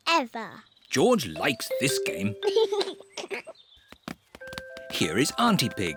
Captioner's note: giggles